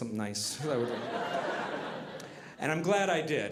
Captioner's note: audience laughing